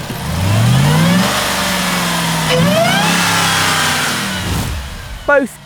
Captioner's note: engine revs